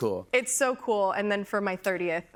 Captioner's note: none